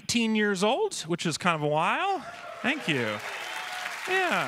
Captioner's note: cheers and applause